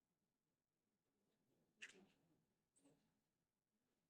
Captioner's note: silence